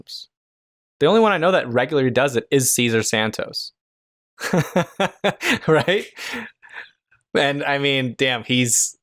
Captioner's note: laughter